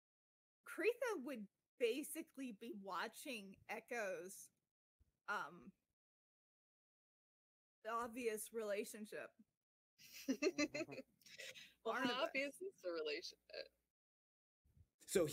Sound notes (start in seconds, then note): 10.1 chuckles